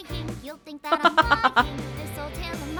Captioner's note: chuckles